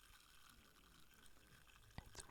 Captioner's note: fizzy sounds